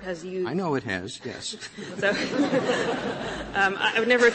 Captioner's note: laughter